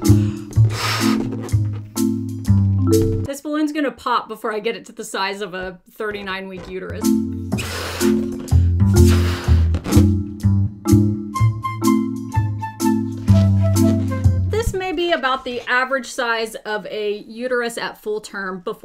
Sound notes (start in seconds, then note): 6.6 quirky music; 7.4 blowing